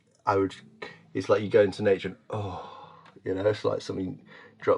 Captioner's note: sighs